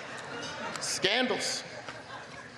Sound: laughter

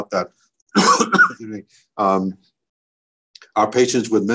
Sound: coughs

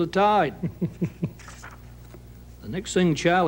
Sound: man laughs

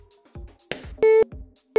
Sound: popping Sound

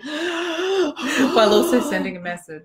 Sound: intense sighing

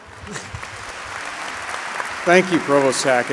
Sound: applause

